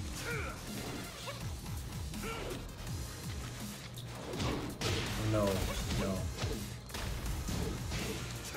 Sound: cough

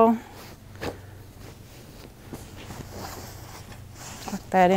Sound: sheets rustling

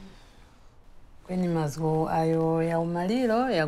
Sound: foreign Language

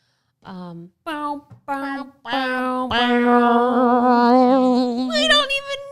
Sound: both making sad saxophone sound

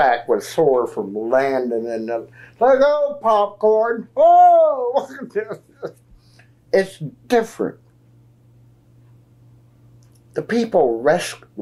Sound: laughs

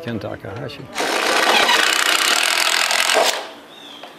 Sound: drill grinding

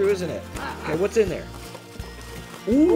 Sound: exclaiming

